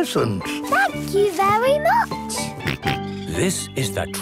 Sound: George snorts

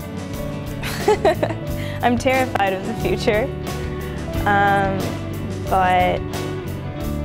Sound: laughs

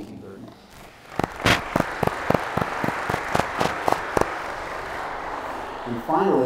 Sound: applause

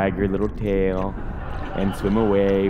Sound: laughter

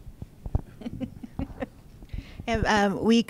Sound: laughing

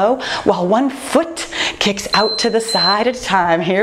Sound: timer beeping

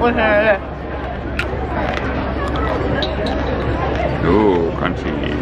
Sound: food crunching

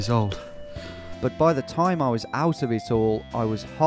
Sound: voiceover

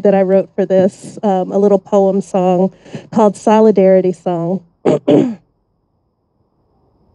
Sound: clears throat

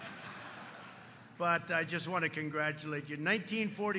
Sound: laughter

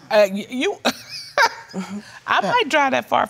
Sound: scoffs and chuckles

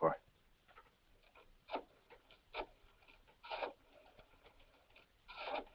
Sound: rotary phone dialing

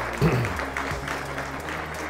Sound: applause

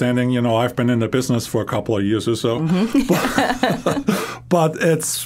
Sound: both laughing

